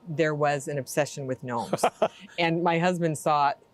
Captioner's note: laughing